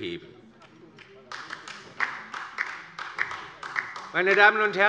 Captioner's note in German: Beifall bei der LINKEN